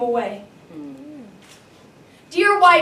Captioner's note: audience Member Murmurs